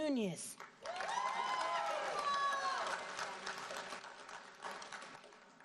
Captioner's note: audience cheering and applauding